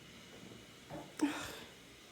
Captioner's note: sigh